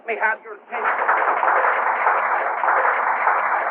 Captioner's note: applause